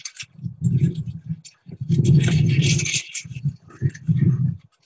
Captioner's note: dress ornaments jingling